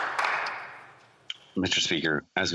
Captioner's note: some Applause